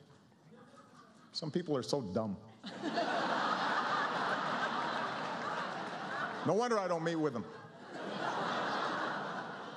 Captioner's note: laughter